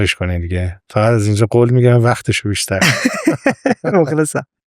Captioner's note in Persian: خنده